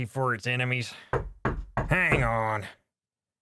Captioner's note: knock at Door